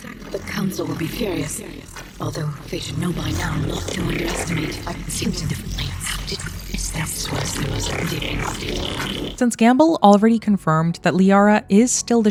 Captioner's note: Liara speaking